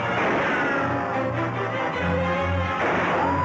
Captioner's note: guns firing